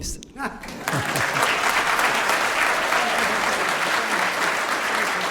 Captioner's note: applause